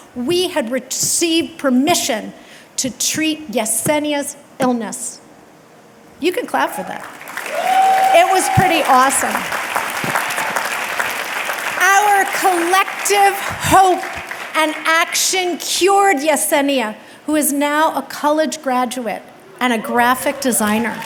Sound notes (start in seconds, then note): 7.2 audience clapping and cheering; 9.3 audience clapping; 20.4 audience clapping and cheering